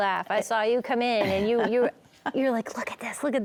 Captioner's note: laughs